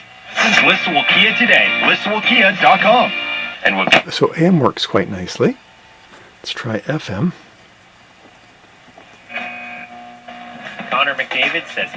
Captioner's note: AM radio plays; FM radio plays